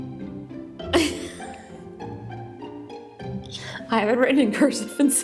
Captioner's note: chuckles